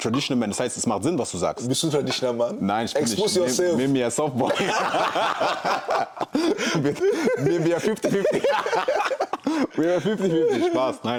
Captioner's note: gelächter